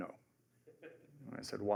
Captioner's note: laughter